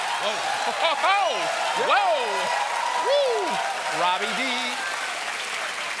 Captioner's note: cheers and applause